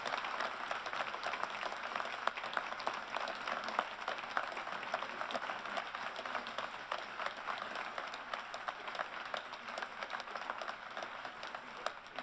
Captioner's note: applause